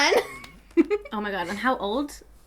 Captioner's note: laughs